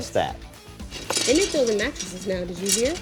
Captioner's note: rebar rattling